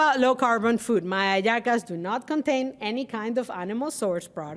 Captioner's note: speaking Spanish